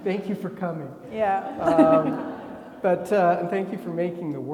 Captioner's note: laughs; attendees laughing